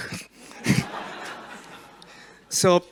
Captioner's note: laughs; crowd laughs